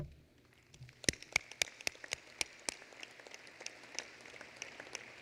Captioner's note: applause